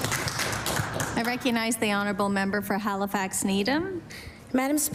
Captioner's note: applause